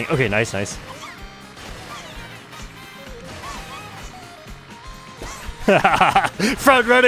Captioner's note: laughs